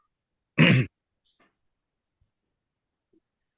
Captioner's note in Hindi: गला साफ़ करने की आवाज़